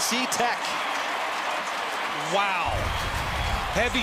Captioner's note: cheering